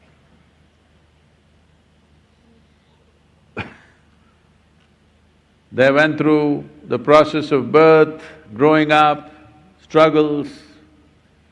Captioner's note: laughs